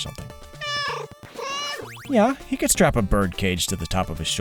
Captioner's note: meow, meow